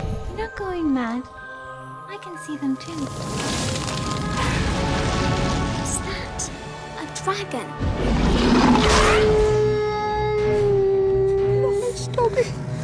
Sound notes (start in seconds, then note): 9.1 howling